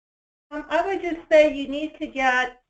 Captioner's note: voiceover